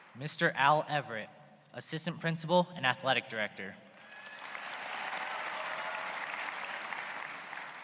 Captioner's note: applause